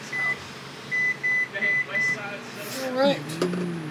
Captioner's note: microwave beeping